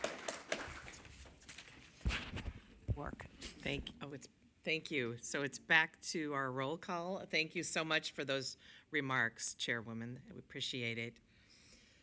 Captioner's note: applause